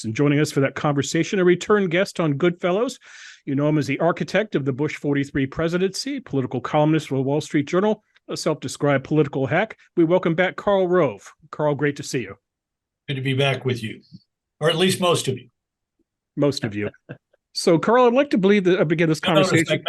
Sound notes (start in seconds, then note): 16.7 laugh